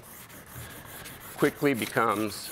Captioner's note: chalk scraping